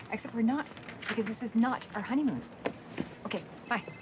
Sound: cellphone ringing

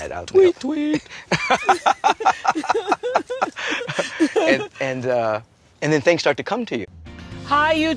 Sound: laughter

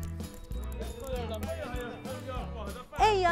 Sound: locals talking

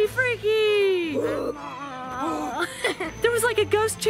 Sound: monster noises

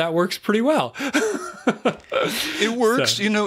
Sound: laughter

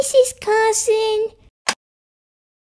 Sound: click!

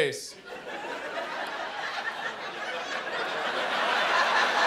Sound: laughter

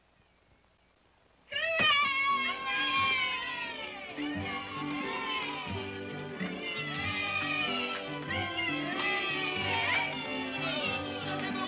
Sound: children cheer; upbeat music

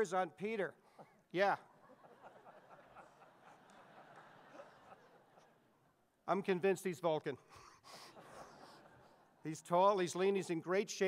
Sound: audience laughs

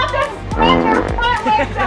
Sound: fart sound effect

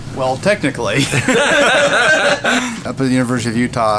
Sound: laughs

